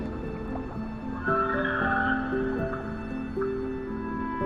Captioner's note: whale singing